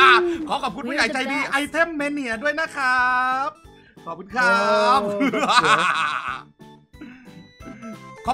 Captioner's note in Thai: เสียงหัวเราะ